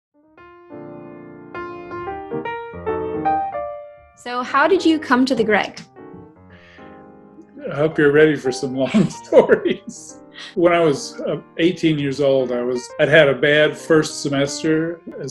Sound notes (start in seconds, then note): 3.3 light jazz music; 7.4 laughs